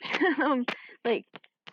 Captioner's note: chuckles